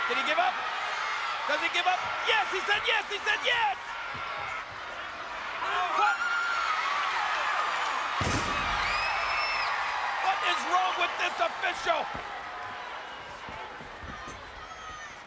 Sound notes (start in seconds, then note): 6.7 audience cheering; 8.2 body thuds